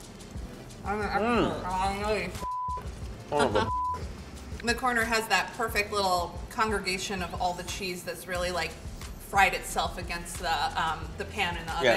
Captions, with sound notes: - I'm the expert and I know this (beep). - All of the (beep). - The corner has that perfect little congregation of all the cheese that's really like, fried itself against the pan in the oven so--